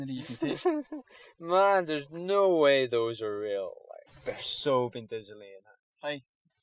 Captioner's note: laughs